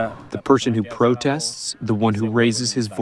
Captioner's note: through translator